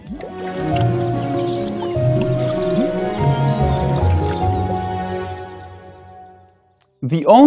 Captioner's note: peaceful music; birds singing